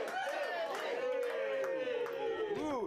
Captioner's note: audience cheering